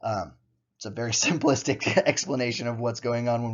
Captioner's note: chuckles